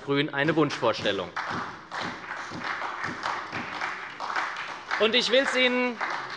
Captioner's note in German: Beifall bei der SPD